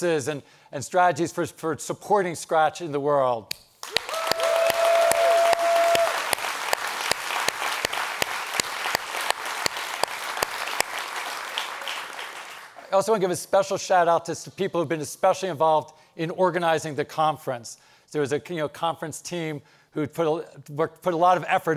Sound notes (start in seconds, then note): 4.3 audience applauds